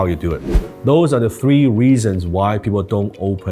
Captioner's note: whoosh